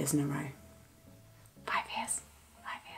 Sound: whispers

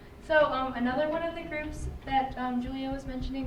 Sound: none

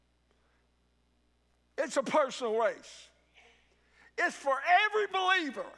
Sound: none

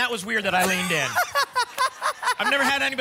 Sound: laughter

